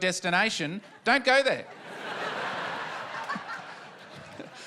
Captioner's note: laughter